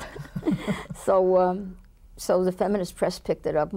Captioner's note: both laugh